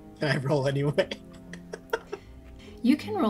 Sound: giggles

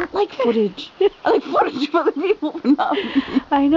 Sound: giggles

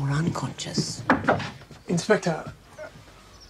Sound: knocks

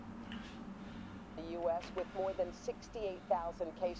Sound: news plays on TV

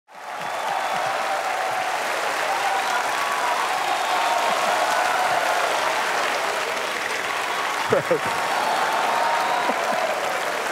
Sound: applause

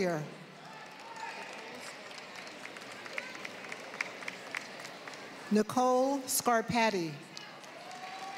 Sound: applause; applause

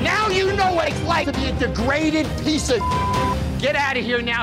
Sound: beep

